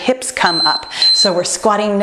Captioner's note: timer beeping